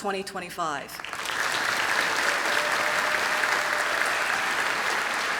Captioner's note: applause